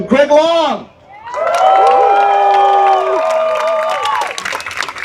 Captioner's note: cheers and applause